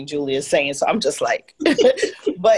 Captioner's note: laugh